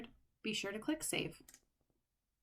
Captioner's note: click